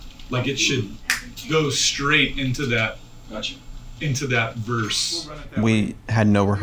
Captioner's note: snaps